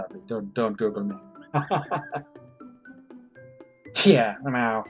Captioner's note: laughs